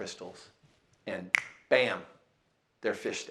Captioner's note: snaps fingers